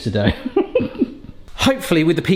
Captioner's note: laughing